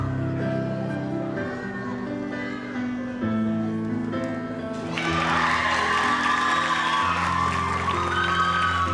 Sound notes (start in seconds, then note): 4.7 audience applauds